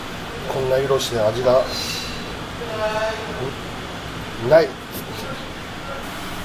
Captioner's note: laughs